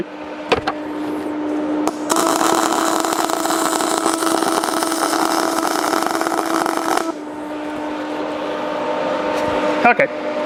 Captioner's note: welding